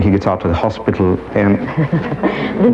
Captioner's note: audience laughs